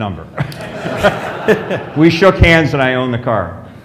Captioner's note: laughs